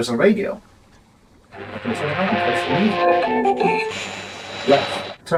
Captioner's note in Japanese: ラジオのノイズ